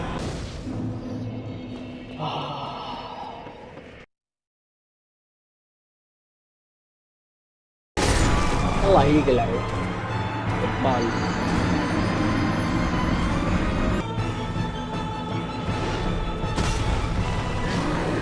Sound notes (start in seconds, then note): 2.1 sighs